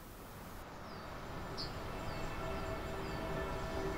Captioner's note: birds chirping, church bells